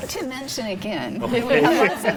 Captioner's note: panel laughs